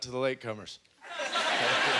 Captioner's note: audience laughter